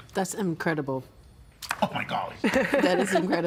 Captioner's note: laughing